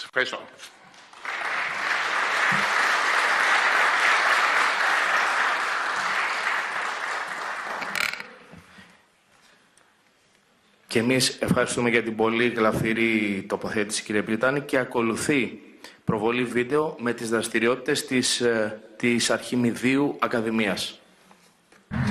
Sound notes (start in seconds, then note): 2.8 clap; 21.9 introductory music